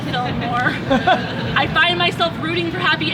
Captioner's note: laughter